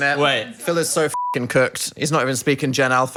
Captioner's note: beep